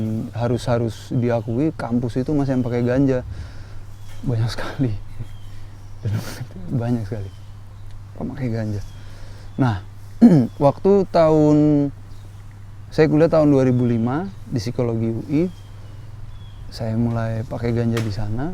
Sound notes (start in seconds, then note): 10.2 clears throat